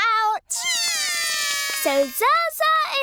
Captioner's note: both cry